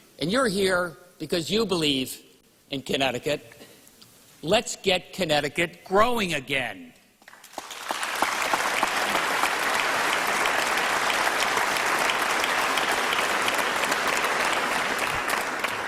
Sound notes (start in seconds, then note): 12.5 applause